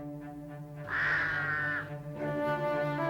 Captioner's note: cawing